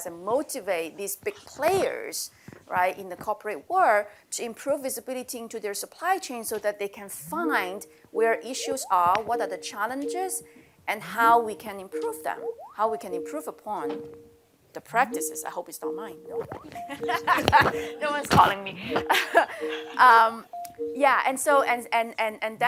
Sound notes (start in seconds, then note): 16.8 laughter